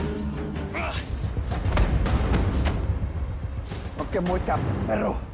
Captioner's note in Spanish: Quejidos